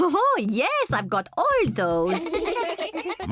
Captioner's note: kids giggling